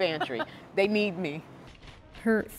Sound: laughter

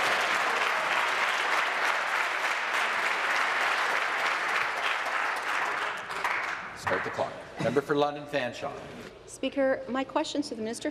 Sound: applause

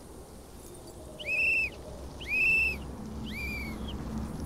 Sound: blowing whistle

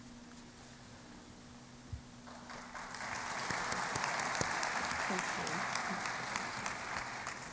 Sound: applause

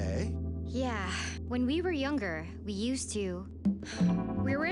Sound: sigh

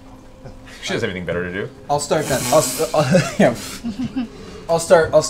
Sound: laughs

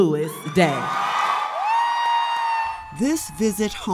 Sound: people cheering

